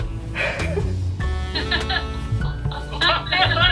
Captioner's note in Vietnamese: <i> Giọng cười lo lắng</i>